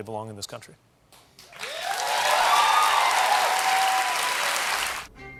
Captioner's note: cheers and applause